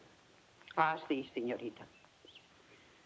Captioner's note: speaks in foreign language